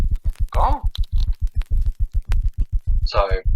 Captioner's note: static